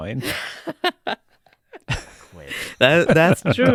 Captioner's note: laughing